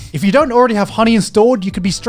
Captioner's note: laughs